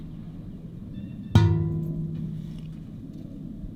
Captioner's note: metal pounding